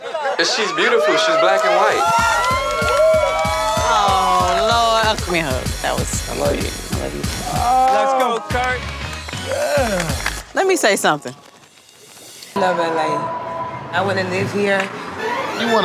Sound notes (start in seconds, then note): 2.3 crowd cheering